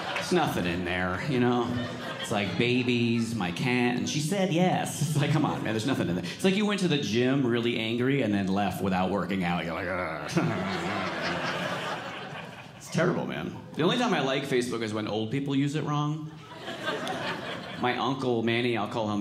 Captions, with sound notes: There's nothing in there. It's like, babies, my cat and, she said, Yes. It's like, come on. There's nothing in. It's like you went to the gym really angry, and then left without working out I go. (audience laughing) It's terrible man. The only time I like Facebook is when old people use it wrong. My uncle Manny, I'll call him Manny,